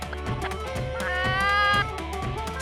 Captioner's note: impersonating a chicken